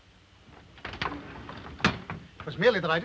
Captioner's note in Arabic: صوت الباب ينغلق